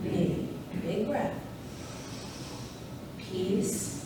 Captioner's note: inhales